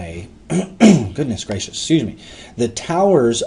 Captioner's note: clears throat